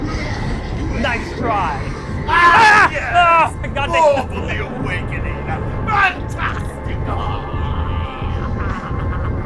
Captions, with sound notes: Nice try! Aahh, yes! (yelp) My god! More for the Awakening! Fantastic! (guttural laughter)